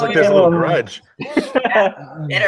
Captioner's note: laughing